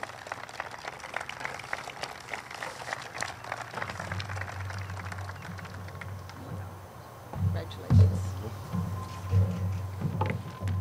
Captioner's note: group claps